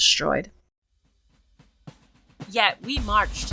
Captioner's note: faint marching